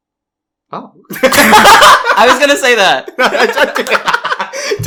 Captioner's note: laughs